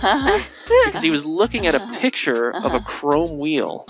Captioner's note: laughing